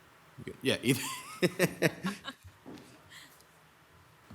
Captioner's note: people chuckle